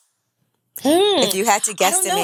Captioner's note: humming